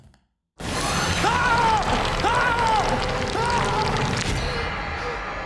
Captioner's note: screams